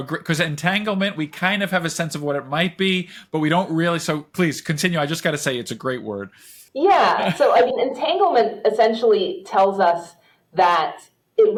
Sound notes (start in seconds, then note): 7.0 chuckles